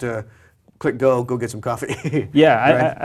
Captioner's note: laugh